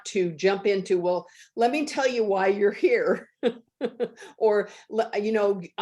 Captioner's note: laughs